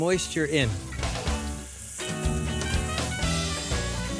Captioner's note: sizzling